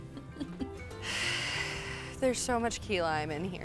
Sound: sighing

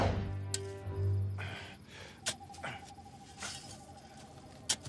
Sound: grunting

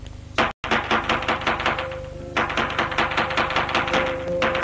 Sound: knocking

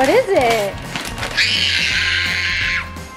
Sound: paper ripping; screaming

